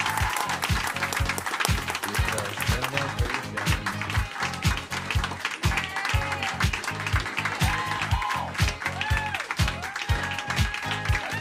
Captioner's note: cheering